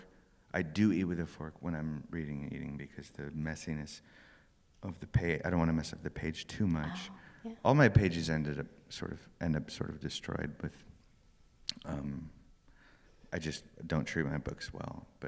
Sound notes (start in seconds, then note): none